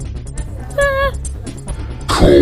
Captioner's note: whimpers